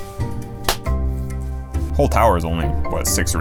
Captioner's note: claps